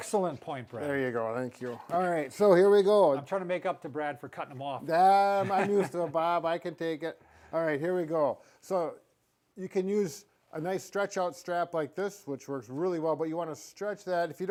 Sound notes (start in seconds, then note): 5.2 laughing